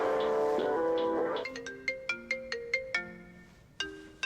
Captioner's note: music stops; phone ringing